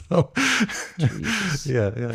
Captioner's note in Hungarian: nevetés